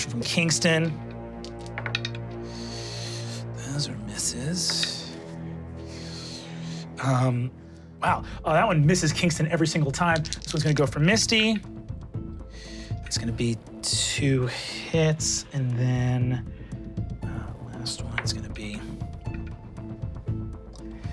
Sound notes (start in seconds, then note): 1.4 dice rolling; 11.3 dice rolling; 14.5 dramatic music